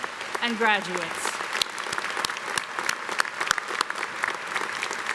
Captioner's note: audience applauding